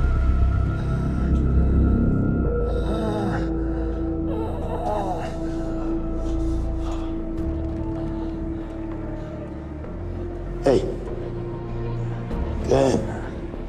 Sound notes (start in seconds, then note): 1.2 scoffs; 2.2 moaning; 5.3 heavy breathing